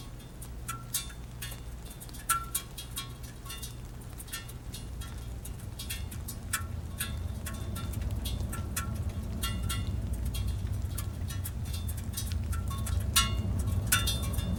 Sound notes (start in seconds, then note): 9.3 low sonic thrumming